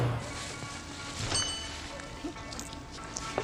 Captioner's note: doorbell dings